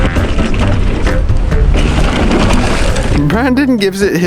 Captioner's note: bike tires on trail